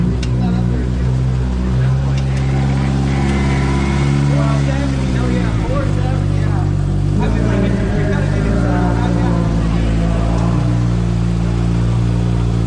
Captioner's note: engine revving